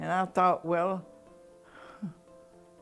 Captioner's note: Ruth chuckles